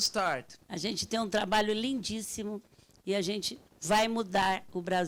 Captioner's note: speaking Portuguese